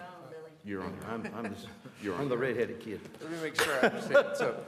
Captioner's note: laughter